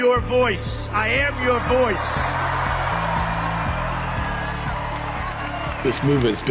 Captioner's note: crowd cheers and applauds